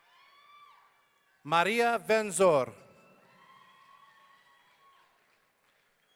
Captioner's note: audience cheering